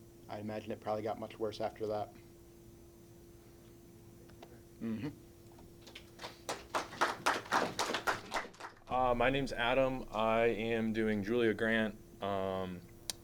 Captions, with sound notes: I imagine it probably got much worse after that. [clapping] My name is Adam. I am doing Julia Grant.